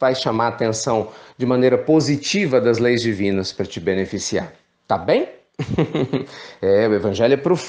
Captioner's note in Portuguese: Risos